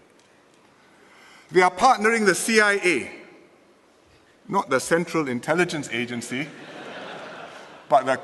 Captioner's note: laughter